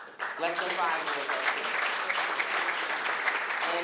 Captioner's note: applause